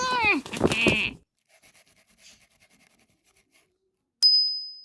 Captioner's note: intense scribble noises